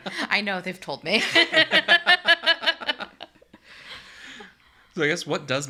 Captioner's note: laughs; laugh